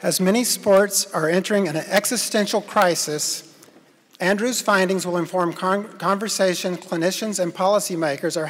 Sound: none

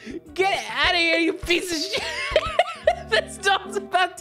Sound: still laughing

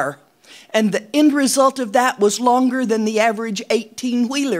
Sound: none

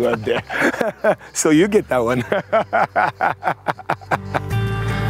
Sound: laughs; relaxed country music

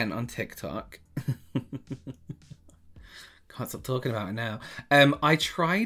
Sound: laughter

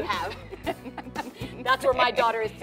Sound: laughter

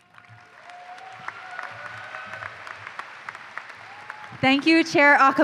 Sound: applause

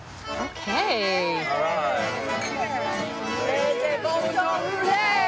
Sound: cheering and chatting

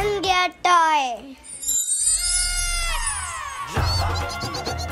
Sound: magical Sound

